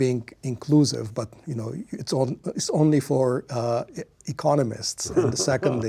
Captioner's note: laughs